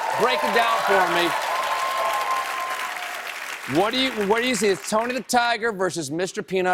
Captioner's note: applause